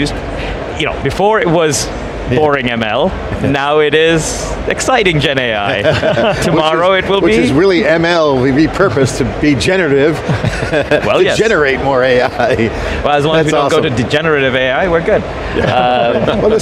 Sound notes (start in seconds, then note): 5.6 group laughing; 10.1 laughs; 15.4 group laughing